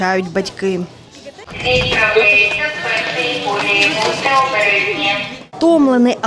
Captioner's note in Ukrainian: Голос диктора, який озвучує інформацію про прибуття поїзда